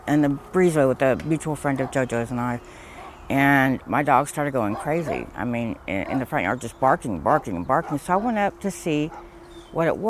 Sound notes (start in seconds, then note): none